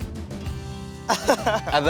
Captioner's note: laughs